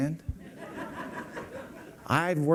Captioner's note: laughter